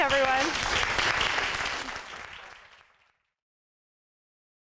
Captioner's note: applause